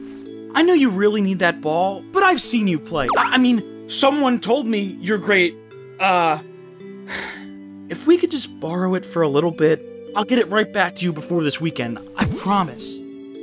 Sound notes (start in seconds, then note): 7.0 sigh